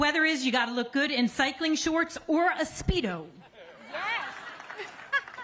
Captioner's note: applause